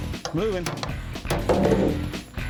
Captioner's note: thud